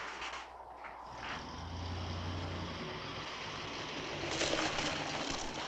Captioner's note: car engine rumbling